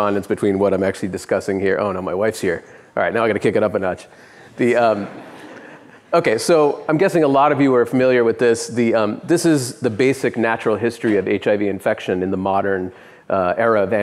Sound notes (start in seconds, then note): 5.0 laughing